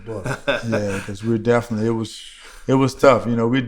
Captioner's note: laughter